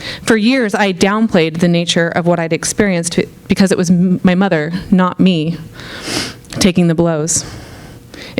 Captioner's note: none